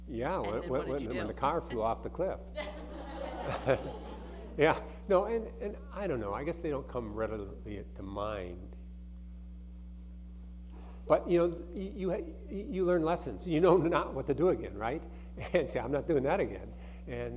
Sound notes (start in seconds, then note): 2.6 audience laughing